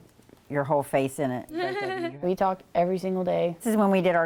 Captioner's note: giggles